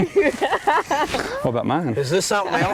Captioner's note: laughter; laugherter